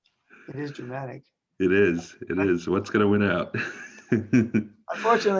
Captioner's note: chuckles